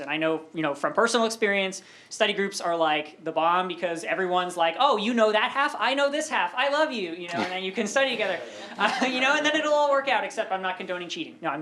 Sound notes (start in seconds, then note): 7.8 laughter